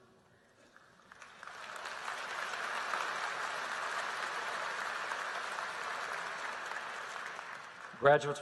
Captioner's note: applause